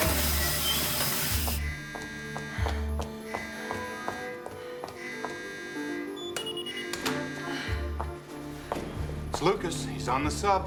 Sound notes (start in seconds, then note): 0.0 water run; 4.9 alarm; 8.6 footstep